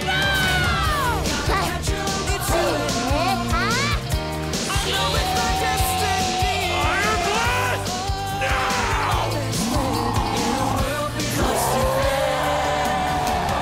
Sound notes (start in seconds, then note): 4.7 yells; 8.4 roaring